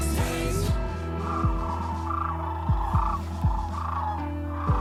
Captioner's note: swans gobbling